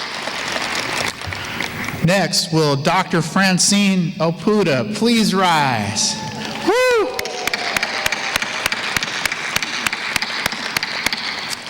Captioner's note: applause; applause